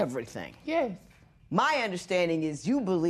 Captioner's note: none